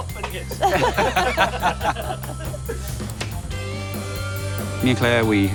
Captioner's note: laughs